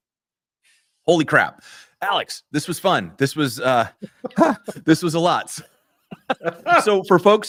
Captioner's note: laughter